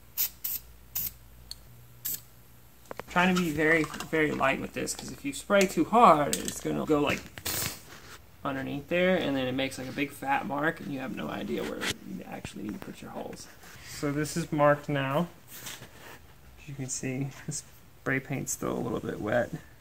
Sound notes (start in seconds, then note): 2.1 sprays; 7.7 pffft